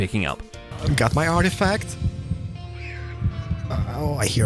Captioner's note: Vex noises